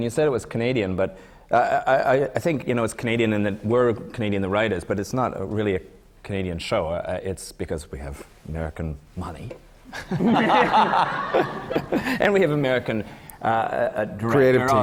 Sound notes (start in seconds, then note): 9.9 laughter